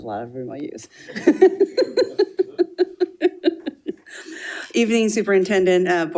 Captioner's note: attendees laughing